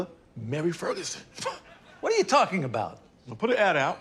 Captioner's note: chuckles